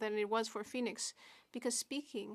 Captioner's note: speaking French